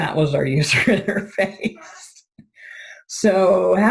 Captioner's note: laughing